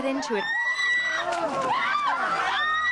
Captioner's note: all screaming